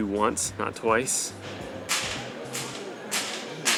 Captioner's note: distant crashing